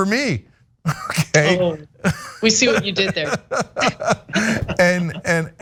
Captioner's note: laugh